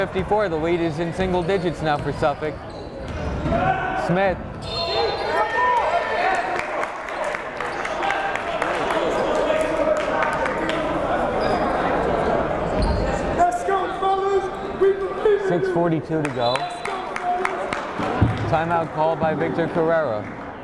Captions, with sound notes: 63, 54, the lead is in single digits now for Suffolk. Smith. (whistle blowing) (clapping) 6:42 to go, time-out called by Victor Correa.